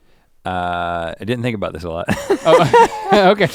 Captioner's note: chuckles